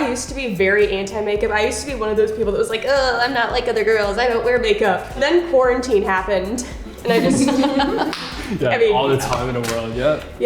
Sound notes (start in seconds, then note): 7.0 everyone laughing; 8.0 claps